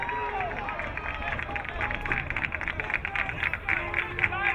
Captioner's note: crowd cheering